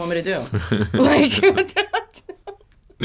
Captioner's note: laughs